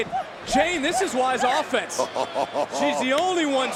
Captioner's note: Booker laughing